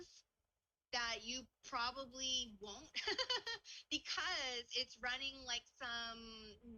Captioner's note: laughs